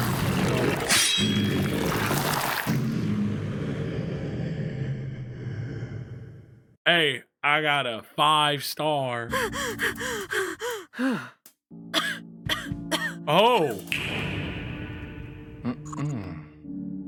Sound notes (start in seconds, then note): 9.3 panting; 9.3 Robyn and Benedict gasp; 11.9 coughs